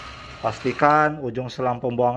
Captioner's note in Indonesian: suara mesin printer